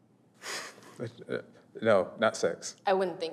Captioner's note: chuckles